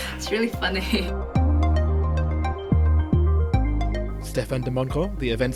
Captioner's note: voiceover